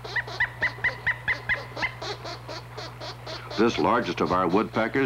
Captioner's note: woodpecker sounds